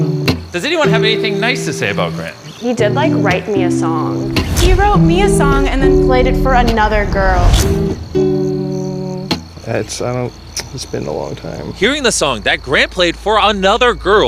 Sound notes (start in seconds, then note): 7.5 humming